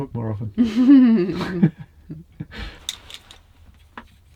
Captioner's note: laughing